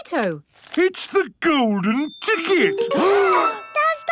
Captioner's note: gasps